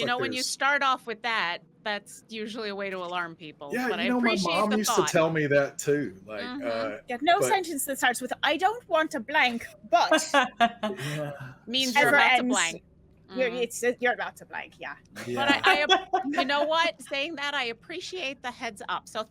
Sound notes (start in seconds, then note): 10.0 laughing; 15.2 laughing